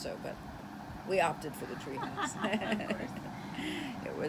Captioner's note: chuckles